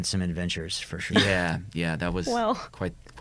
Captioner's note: chuckles